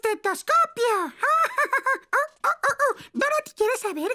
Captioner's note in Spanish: riendo